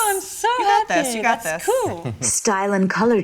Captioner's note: laughs